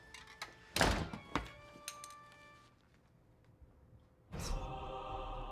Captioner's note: door slams; orchestral music begins